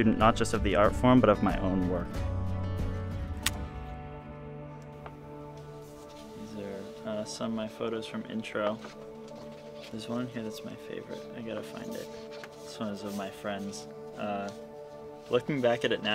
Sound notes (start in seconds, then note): 3.3 camera flashing; 5.7 upbeat music